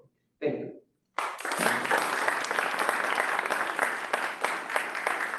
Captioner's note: applause